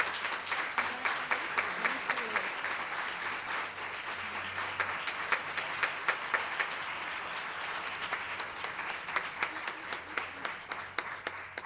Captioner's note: applause